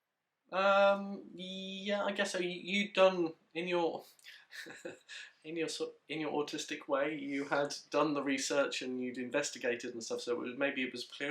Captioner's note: laughs